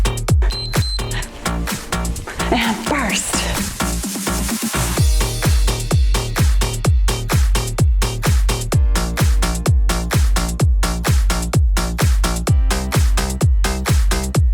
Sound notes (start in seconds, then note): 0.5 timer beeps; 3.5 cheerful music